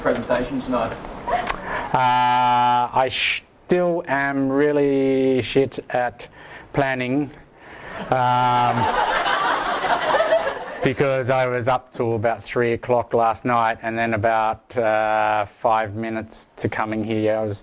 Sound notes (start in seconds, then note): 8.6 audience laughs